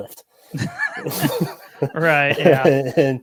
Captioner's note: all laughing